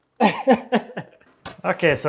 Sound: laughs

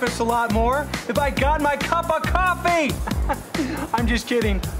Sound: laughs

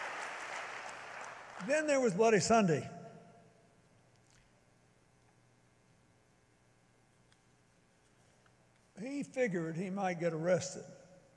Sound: applause

